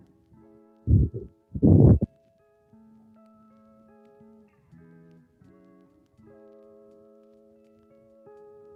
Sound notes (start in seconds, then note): 1.5 wind blowing